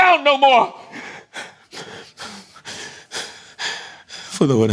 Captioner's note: panting